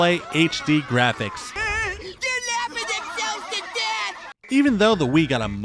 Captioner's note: laughs